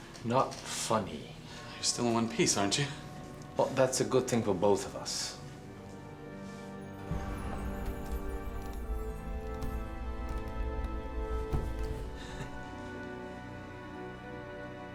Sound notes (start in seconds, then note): 12.2 chuckles